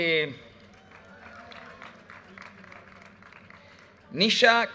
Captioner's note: audience cheers and applause